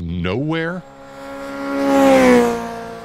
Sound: motorbike passing

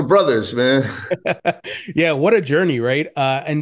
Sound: chuckles

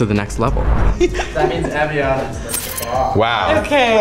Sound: everyone laughs

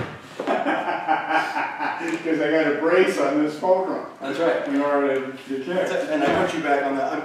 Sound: laughter

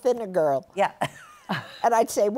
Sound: laughter

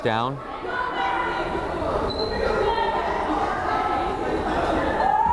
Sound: crowd chattering

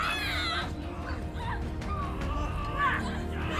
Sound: screams

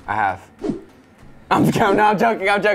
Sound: whooshing

